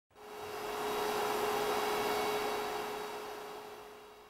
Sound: projector humming

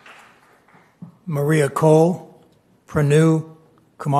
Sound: applause

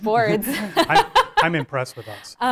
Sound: laughs

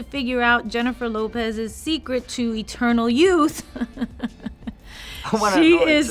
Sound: laughs

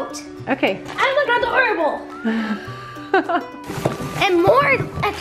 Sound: laughs

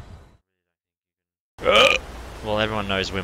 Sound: burp

